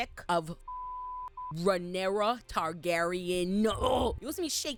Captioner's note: beep